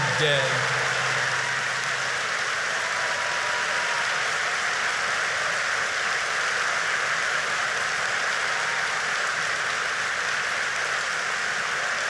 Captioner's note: applause